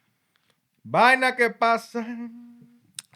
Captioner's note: non-english Speech